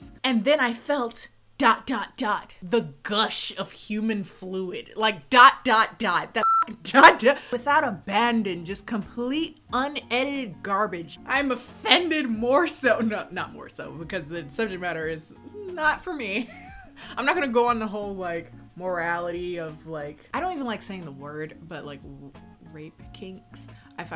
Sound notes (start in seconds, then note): 6.4 beep; 16.4 laughs